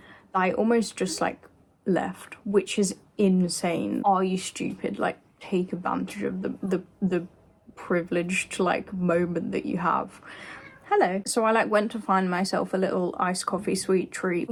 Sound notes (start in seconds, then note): 10.6 meow